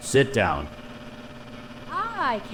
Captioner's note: engine noise